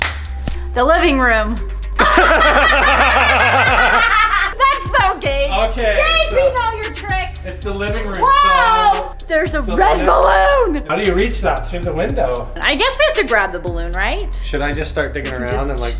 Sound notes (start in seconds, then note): 0.0 claps; 2.0 everyone laughs